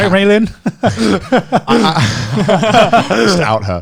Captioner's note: laughing